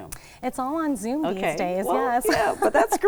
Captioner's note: laughs